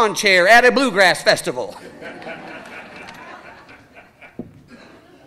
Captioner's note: audience laughing